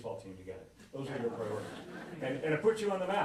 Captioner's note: laughter